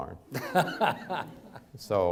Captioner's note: audience laughs